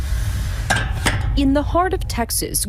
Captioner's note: clanking